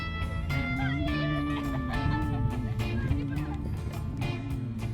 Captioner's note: people laughing